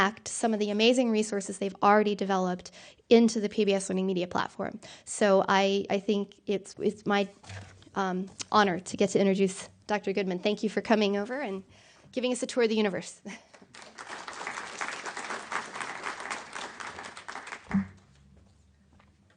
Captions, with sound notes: some of the amazing resources they've already developed into the PBS Learning Media platform. So I think it's my honor to get to introduce Dr. Goodman. Thank you for coming over and giving us a tour of the universe. (applause)